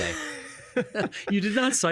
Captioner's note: laughing